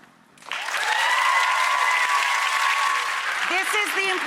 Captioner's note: cheering